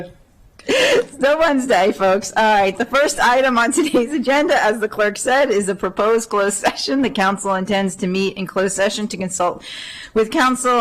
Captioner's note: laughter